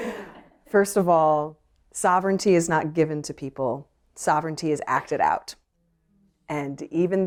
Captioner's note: laughter